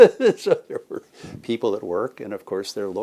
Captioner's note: chuckles